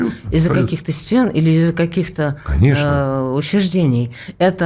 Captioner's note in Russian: откашливается